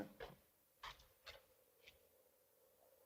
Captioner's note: scraping sound